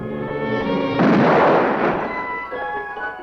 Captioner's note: gunshot